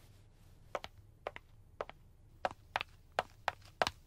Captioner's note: footsteps tap